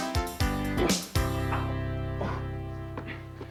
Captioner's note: groans